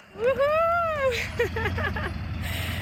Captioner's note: laughing